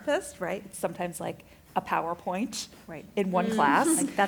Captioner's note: affirmative chatter